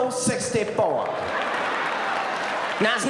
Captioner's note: audience laughing